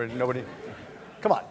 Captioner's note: laughter